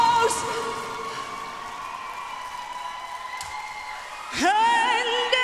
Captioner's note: audience applauds